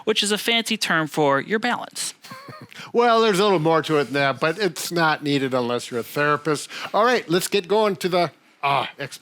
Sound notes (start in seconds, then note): 2.2 laughs